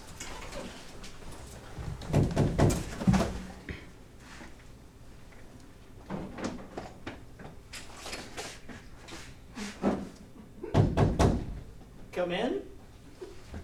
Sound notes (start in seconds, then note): 1.9 knocking; 11.0 knocking